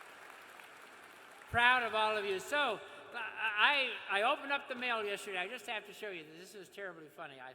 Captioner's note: cheers and applause